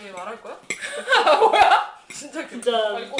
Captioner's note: laughing